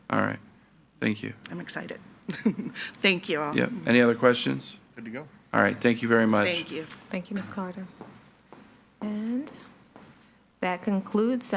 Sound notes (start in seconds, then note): 2.3 laughs; 7.9 shoes tapping